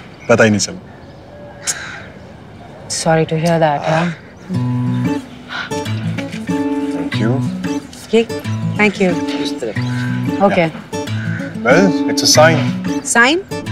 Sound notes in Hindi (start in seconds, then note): none